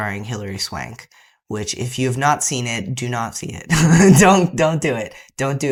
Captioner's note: laughter